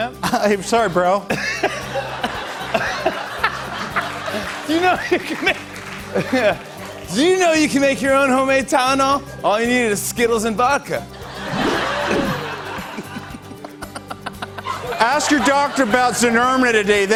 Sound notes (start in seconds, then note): 1.2 laughs; 11.1 laughter